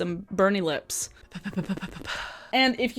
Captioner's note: lips tapping